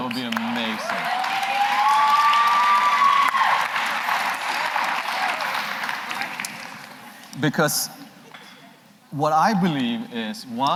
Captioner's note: applause